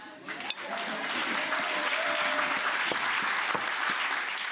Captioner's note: audience cheers